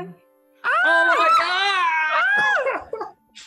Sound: group yells

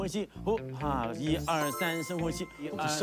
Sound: adjusting breath

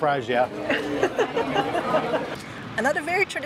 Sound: laughs

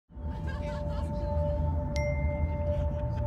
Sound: girl laughing; bell ringing

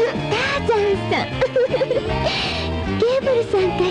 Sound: she laughs

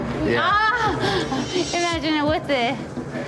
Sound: barmaid laughing

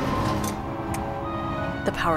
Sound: loud motor shuts off

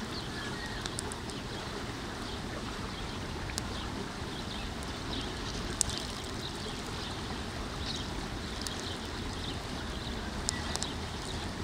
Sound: birds singing

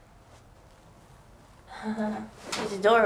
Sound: Heidi chuckles

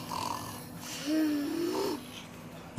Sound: growls

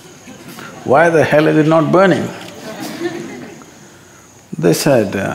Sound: laughter

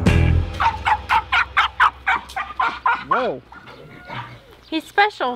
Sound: dog running and barking

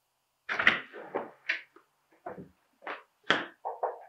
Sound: door clicks open; music scratches

